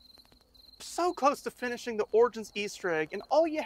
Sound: crickets chirping

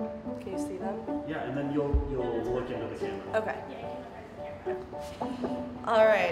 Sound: background voices

